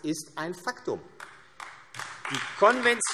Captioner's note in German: Beifall AfD